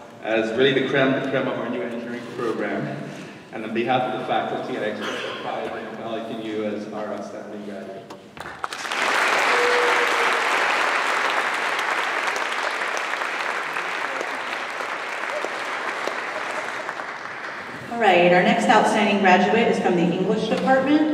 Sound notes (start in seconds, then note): 8.1 applause